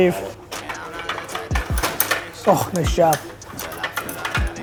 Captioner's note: ball hitting pucks